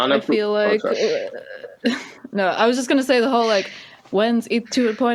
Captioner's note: laughs